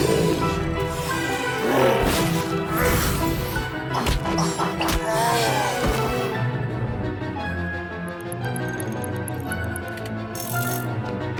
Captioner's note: growling